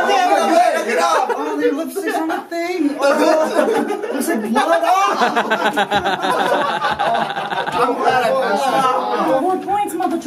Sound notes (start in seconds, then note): 3.1 laughter